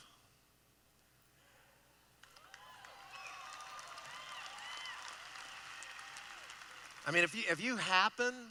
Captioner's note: applause